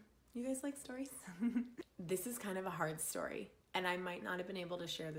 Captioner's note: giggle